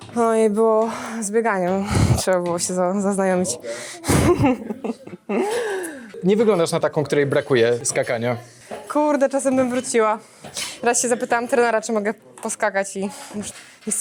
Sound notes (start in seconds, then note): 5.0 laughs; 5.4 gasp